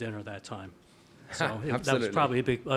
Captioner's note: laughs